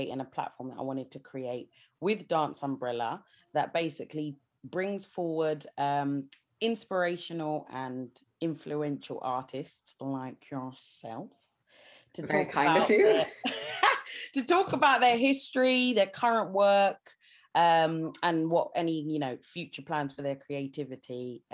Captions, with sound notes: and a platform that I wanted to create with Dance Umbrella that basically brings forward inspirational and influential artists like yourself. - Very kind of you. - To talk about the- (laughs sharply) to talk about their history, their current work and any future plans for their creativity